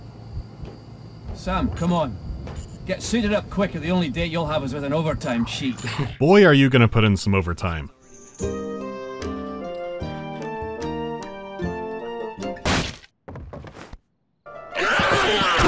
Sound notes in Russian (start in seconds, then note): 12.6 хренак; 14.8 звуки лютой резни